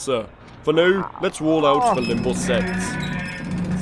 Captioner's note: audible groaning